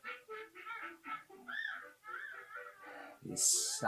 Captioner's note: baby babbles